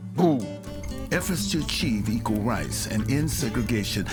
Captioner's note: voiceover